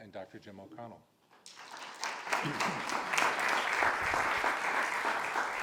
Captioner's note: audience applauding